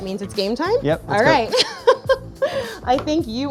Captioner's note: chuckles